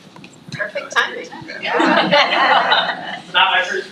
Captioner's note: trustees laughs